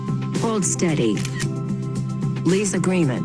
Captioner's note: camera snap